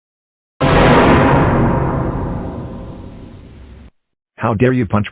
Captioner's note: suspenseful Boom